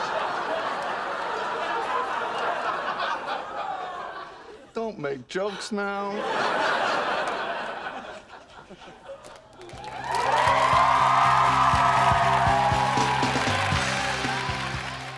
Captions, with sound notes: Don't make jokes now. (audience laughing) (audience cheering)